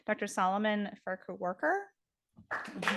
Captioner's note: audience applauding